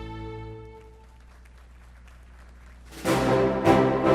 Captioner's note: attendees applauding; upbeat music